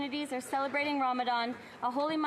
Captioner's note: none